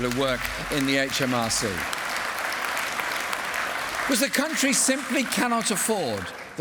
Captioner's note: applause